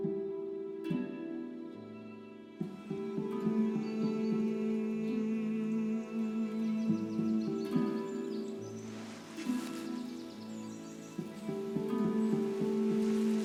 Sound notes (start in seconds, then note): 3.4 birds chirp, woodland soundscape